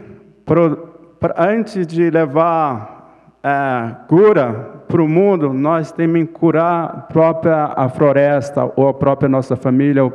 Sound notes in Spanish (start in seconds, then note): 1.2 Ponente habla en portugués